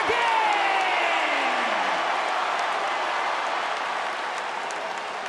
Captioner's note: fans cheering